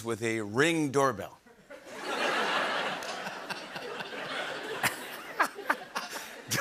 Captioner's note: laughter